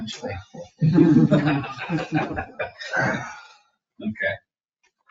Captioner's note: people chuckle